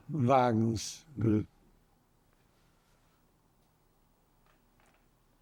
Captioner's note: pauses 6 seconds